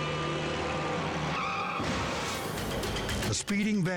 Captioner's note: horn honking; tires screeching; cars crashing